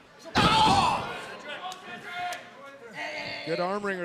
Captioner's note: shouting